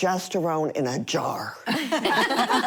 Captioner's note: laughter